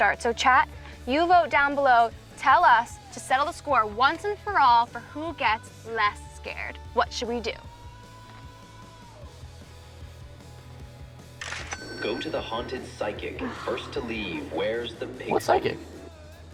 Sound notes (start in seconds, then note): 7.9 uptempo music; 11.4 cash register rings